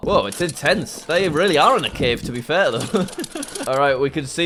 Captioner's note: laughs